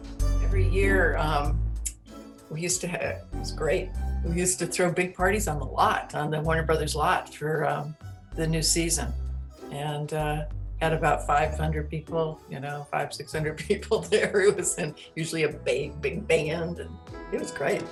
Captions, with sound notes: Every year we used to hav-- it was great! We used to throw big parties on the lot, on the Warner Brothers lot for the new season. And had about 500 people y'know, 500-600 people there it was in-- [ laughing ] usually a big-- big band and it was great!